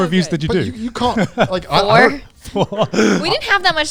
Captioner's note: laughs